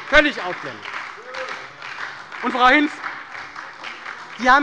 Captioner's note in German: Beifall bei der SPD